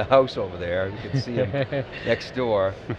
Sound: laughs

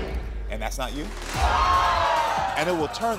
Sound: audience gasps

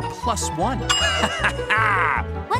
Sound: laughing

